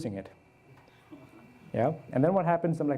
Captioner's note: audience chuckles